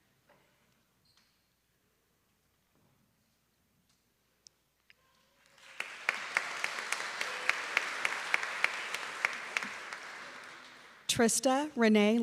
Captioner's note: applause